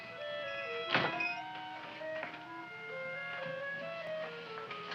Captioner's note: door slamming